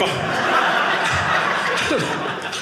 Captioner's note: audience laughing